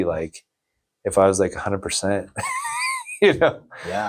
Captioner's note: laughs